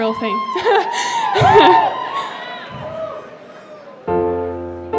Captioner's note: crowd cheering